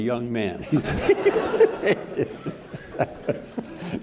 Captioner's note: all laughing